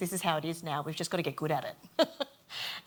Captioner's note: laughs